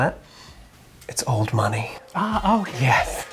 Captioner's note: both sniff